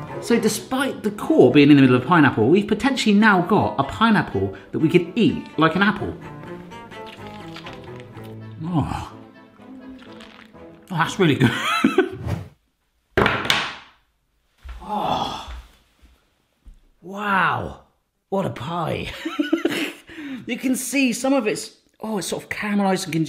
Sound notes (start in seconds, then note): 6.7 juicy munching; 11.4 laughs; 19.2 sniggers